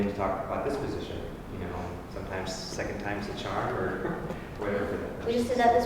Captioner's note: laugh